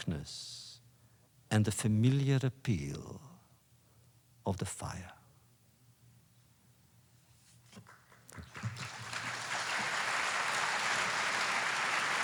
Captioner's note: applause